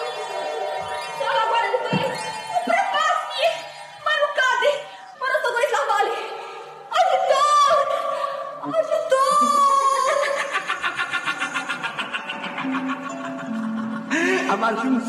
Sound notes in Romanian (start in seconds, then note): 9.9 Râsete